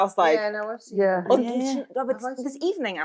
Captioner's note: all murmuring